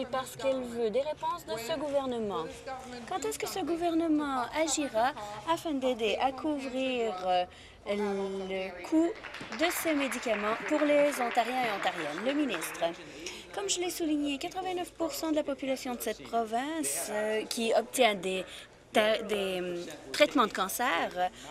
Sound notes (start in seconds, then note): 13.3 applause